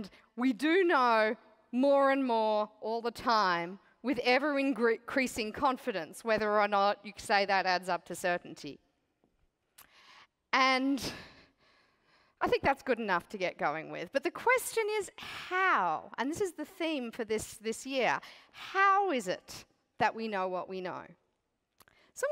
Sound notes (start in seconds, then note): none